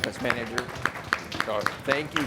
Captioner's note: audience clapping